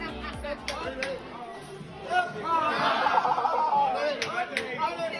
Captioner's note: people laughing and cheering